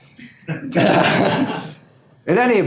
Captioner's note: laughing